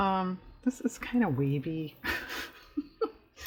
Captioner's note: laughs